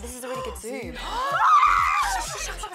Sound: screams

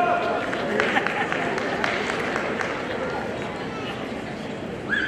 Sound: audience applauding

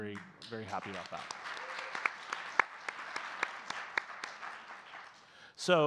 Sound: audience clapping

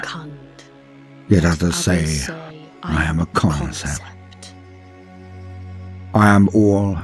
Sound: male and female voice together

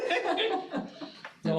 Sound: all laughing

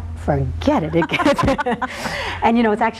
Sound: laughs

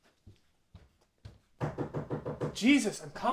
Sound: knocking

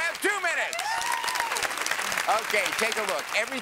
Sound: cheers and applause

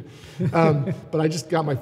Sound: laughs

